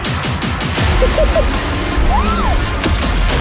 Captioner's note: laughs; shouts